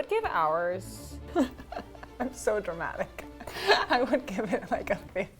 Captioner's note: laughs